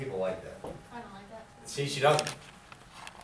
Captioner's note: voiceover